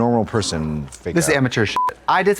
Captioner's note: beep